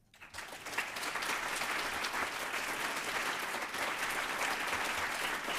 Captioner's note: applause